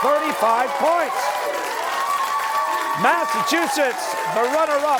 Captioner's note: cheers and applause